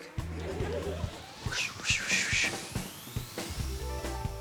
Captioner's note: whooshes